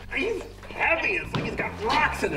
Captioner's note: rocks dropping